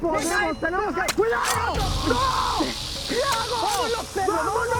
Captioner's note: screaming